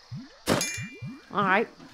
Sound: seeds clink on armor

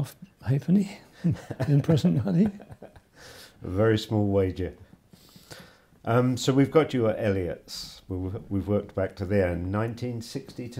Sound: laughs

